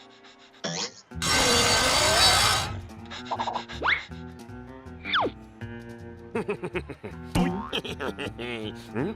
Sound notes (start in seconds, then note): 1.2 buzz saw grinding; 2.3 panting; 7.5 laughing